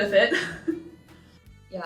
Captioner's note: student chuckling